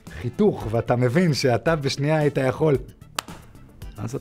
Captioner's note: clap